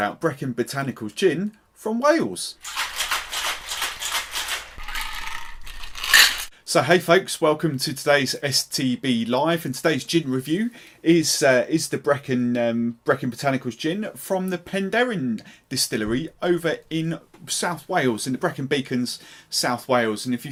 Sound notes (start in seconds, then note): 2.6 ice Clanging